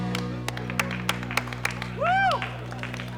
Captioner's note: clapping